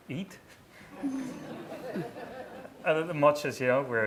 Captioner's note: laughing